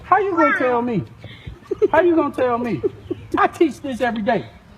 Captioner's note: woman laughing